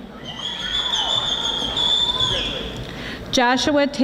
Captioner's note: audience whistling